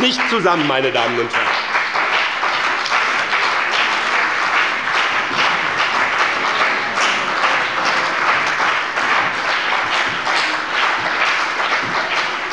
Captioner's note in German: Beifall bei dem BÜNDNIS 90/DIE GRÜNEN und der CDU - Zurufe von der SPD